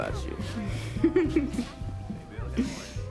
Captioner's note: laughs